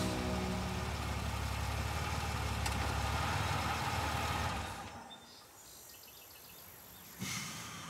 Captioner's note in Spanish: Ruido de la camioneta